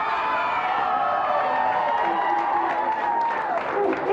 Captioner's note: audience yells